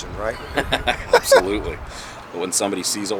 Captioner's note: laughs